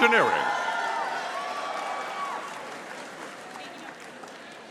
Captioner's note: audience cheering